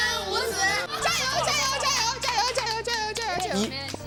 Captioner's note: coughs